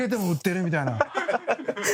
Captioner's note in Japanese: 爆笑